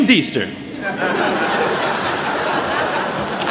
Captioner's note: laughter